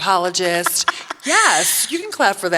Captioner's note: laughing